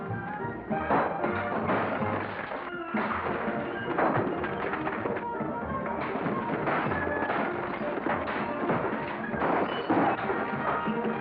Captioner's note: sounds of destruction